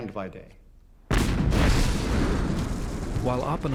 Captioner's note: fires, explosion pounds